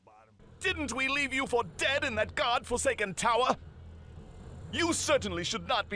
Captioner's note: William sounds fittingly cartoonishly arrogant